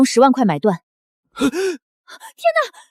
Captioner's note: gasp